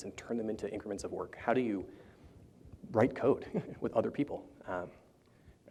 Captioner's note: chuckles